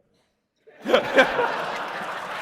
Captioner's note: laughter